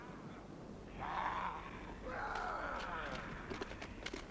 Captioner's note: men growling